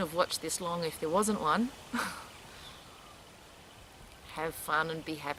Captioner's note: laughs